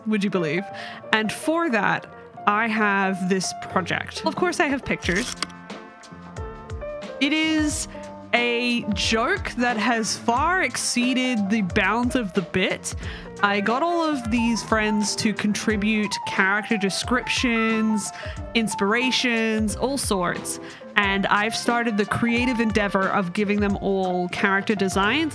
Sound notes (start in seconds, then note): 5.0 projector slide click